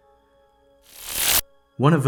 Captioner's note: static crackling